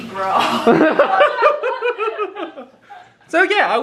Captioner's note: both laugh